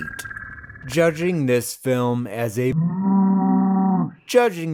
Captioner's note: moose noise